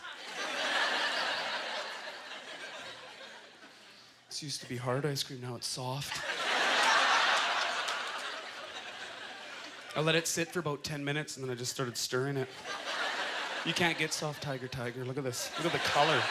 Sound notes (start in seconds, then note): 0.0 audience laughter; 6.1 audience laughter